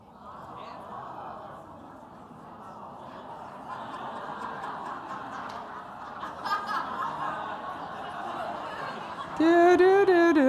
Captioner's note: crowd mummering and laughing